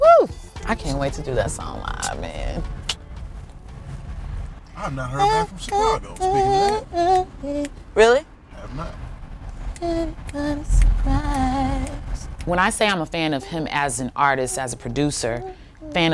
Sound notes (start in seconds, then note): 11.9 fingers snap